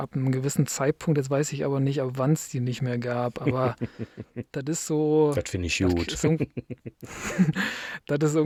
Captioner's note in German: gelächter